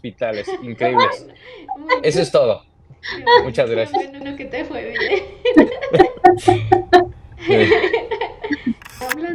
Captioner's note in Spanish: risas